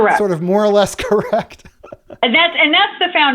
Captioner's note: laughter